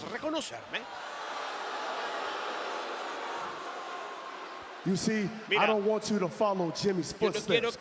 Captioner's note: applause